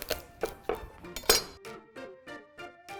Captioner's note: garlic snaps; knife clangs; upbeat music